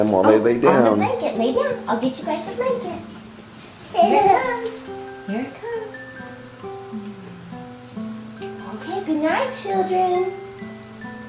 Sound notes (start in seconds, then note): 4.0 laughs